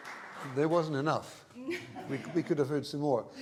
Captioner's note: laughter